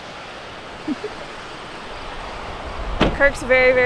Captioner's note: chuckles